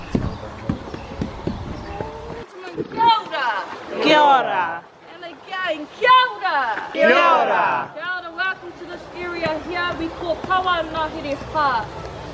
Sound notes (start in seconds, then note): 3.0 speaking foreign language; 6.1 speaking foreign language